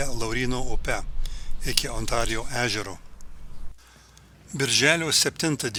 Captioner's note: girgždančio laivo garsai